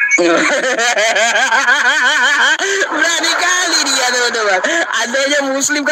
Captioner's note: laughs